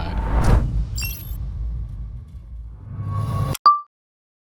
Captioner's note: text beeps